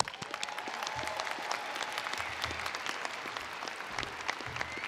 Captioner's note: attendees applauding